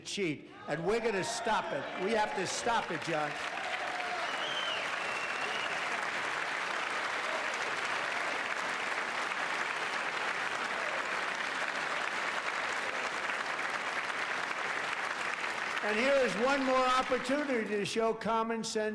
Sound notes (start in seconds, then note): 13.4 applause